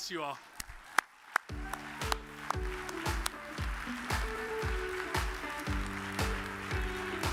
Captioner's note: audience applauds; upbeat music